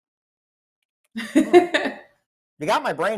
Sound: laughs

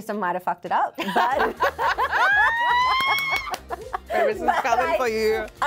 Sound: both laugh

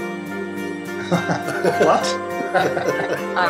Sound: giggles

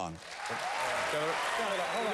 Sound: applause

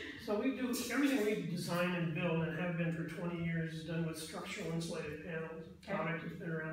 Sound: laughs; SIPs

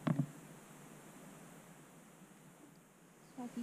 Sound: silence

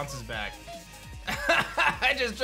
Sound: laughs

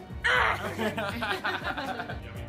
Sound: laugher

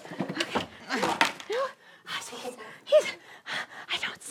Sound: whispering

